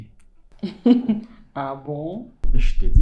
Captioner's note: laughs